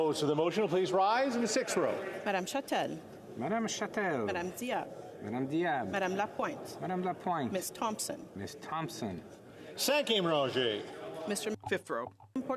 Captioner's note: calling of recorded vote